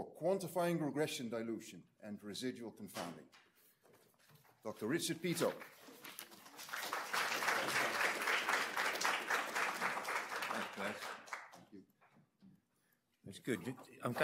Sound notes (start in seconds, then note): 5.4 audience applauds